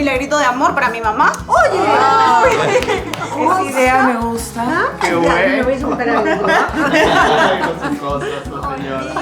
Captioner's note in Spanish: risas